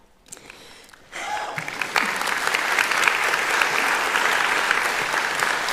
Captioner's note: applauding